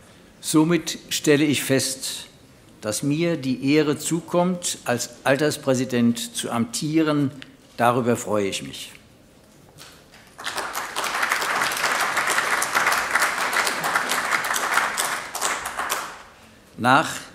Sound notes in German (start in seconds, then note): 10.2 Beifall AfD